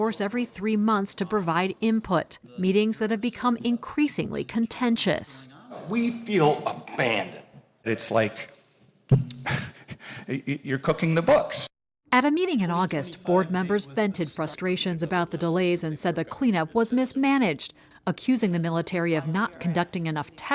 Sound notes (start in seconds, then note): 0.0 voice-over; 12.6 voice-over